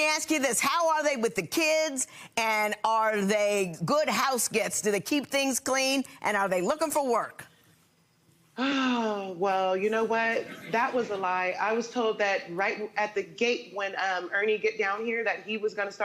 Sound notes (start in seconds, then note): 8.6 sighs